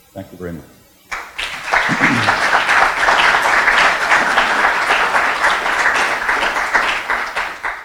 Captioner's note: clapping